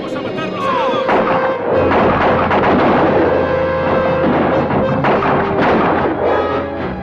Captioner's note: dramatic orchestral music; guns fire